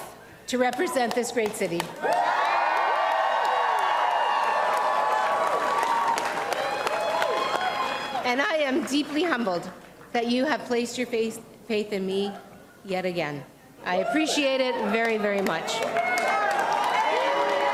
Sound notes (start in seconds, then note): 4.5 cheers and applause